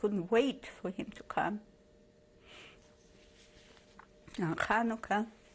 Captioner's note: pauses for 3 seconds